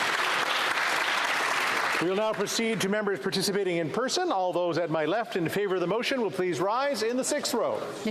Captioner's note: cheering and Applause